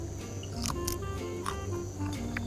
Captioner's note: Crunch